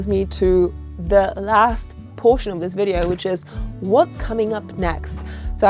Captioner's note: none